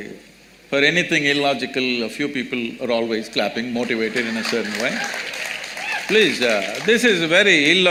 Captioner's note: applause